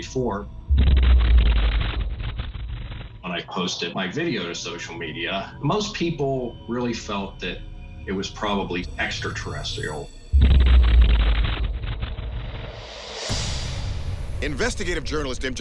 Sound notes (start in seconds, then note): 0.7 loud explosion; 10.4 loud explosion